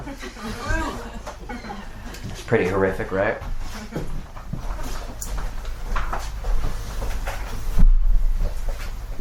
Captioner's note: boo